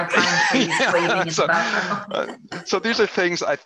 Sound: laughs

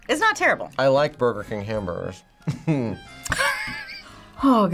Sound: laughs

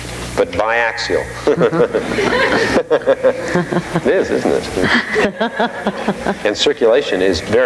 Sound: all laughing

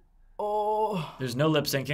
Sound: groaning softly

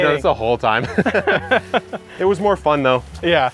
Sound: both men laughing

